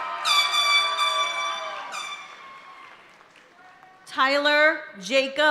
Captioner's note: party horn blaring